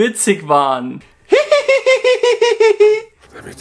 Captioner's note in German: lacht